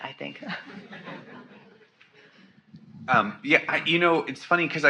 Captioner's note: audience laughs